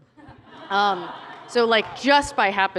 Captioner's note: laughter